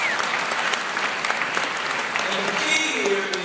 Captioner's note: applause